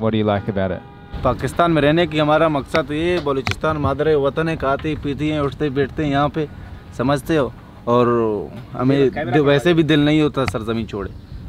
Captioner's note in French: Langue locale